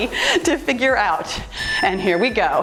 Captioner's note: timer beeps